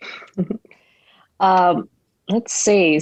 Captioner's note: chuckles